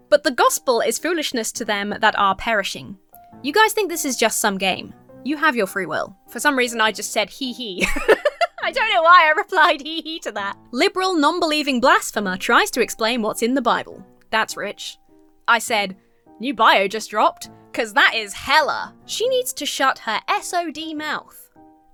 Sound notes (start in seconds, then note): 7.8 giggles